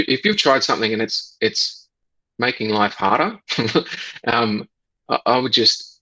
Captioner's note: laughs